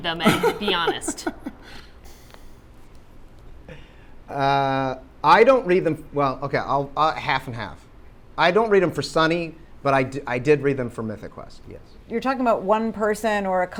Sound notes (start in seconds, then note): 0.2 Rob laughs